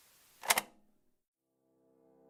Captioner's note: click